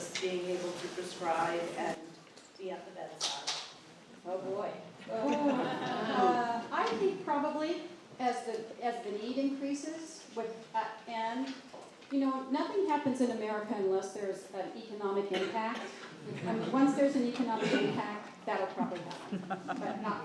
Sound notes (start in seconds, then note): 5.1 laughter